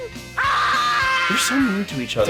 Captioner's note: yelling